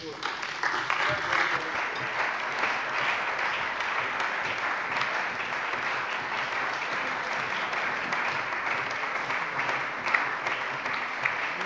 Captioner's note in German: Allgemeiner Beifall